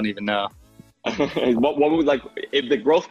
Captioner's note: laughter